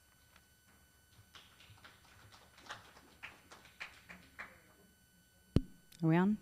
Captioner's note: applause